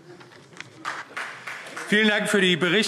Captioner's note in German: Beifall Freie Demokraten